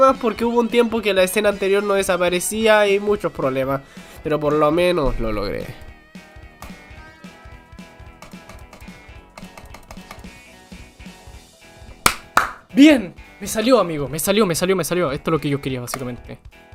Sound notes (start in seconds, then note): 12.0 clap